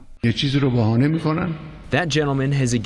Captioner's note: through translator